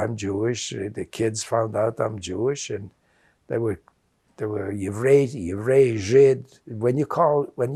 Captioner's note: non-english